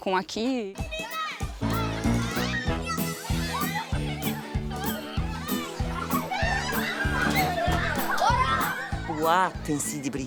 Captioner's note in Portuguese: gritos de crianças